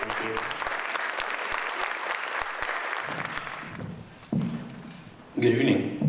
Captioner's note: audience applauding